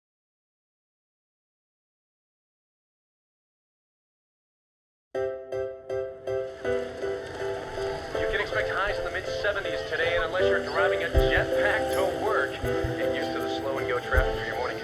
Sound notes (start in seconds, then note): 8.0 radio